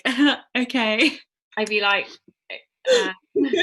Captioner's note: giggle